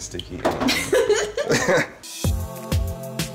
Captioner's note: laughter; upbeat music